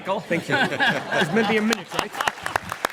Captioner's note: laugh